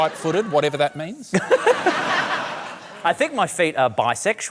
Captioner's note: laughter